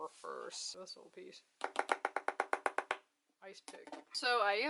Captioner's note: rapid tapping